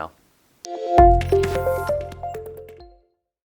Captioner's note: gentle electronic tones